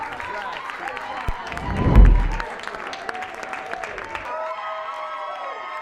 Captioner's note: people clapping and cheering